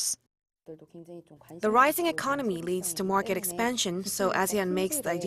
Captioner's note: Korean